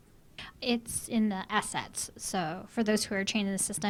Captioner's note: voiceover